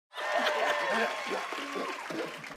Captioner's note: clapping